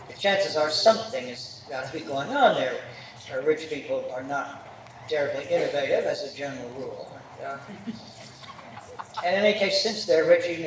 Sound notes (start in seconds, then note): 7.6 laughter